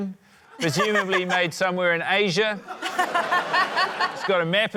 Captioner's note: laughter